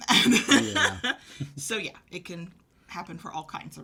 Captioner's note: laughter